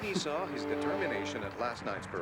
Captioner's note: Corinne scoffs